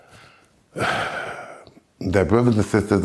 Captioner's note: sigh